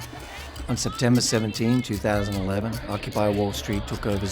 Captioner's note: voiceover